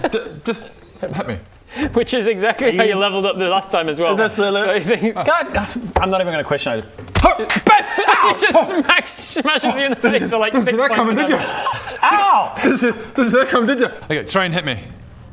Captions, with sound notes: just hit me Which is exactly how you levelled up the last time as well Is this the level? so he-- God, uh I'm not even gonna question I just *slap!* ow! just smacks, smashes you in the face - Didn't see that coming did ya? - for like 6 points of damage OW Didn't see, didn't see that coming did ya? Okay try and hit me